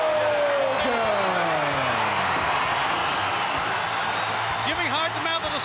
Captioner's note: crowd cheering